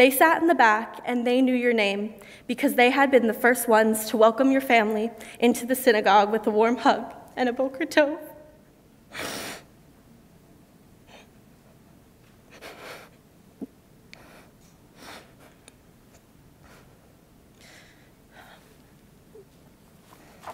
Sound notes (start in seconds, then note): 9.1 sniffles; 12.8 sobs